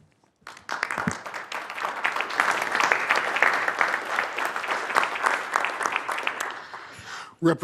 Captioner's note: applause